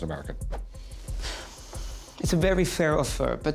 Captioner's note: sighs